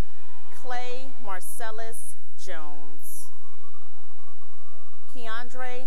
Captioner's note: cheering; cheering